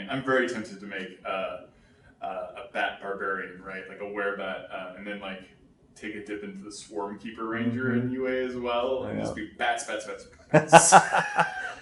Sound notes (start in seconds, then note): 10.5 laughs